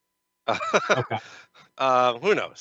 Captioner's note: laughs